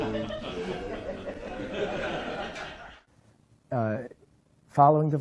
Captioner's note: audience laughs